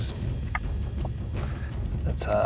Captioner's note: dice clinks